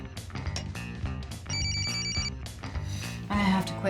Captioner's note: alarm beeping